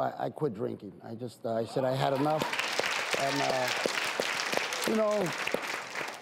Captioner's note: audience and panel clap